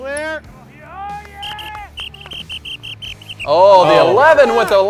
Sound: whistle blowing

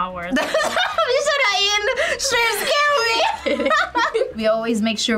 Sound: laughs

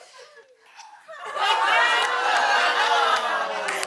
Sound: laughter

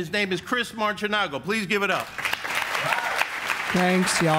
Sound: audience applauds

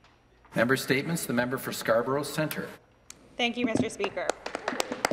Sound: applause

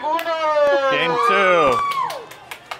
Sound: person cheering; people clapping

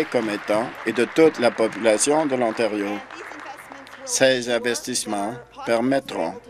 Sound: applause

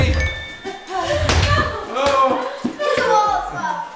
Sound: ball bouncing

